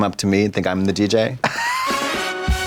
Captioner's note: Trixie laughs; upbeat music